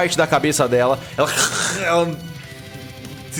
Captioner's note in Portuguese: grunhidos